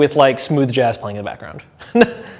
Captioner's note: chuckles